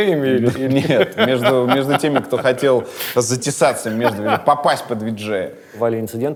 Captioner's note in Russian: смеётся